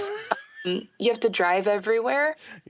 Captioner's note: laughter